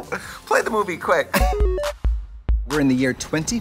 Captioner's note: retro video game sound effect